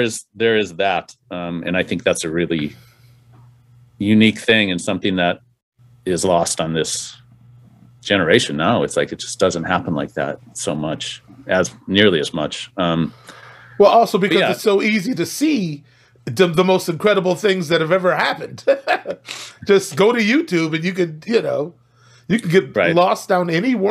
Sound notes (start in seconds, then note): 18.4 laughs